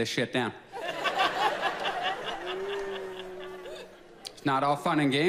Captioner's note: audience laughs